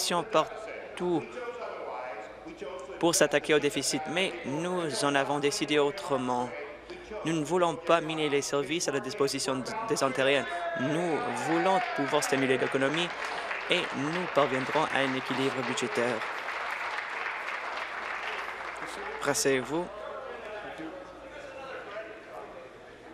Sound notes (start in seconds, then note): 17.1 applause